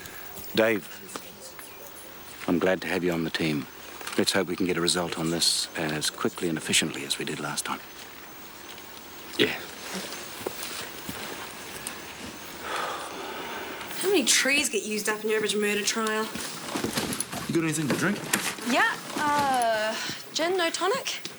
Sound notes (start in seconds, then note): 12.6 sighs